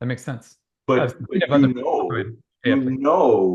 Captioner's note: mumbling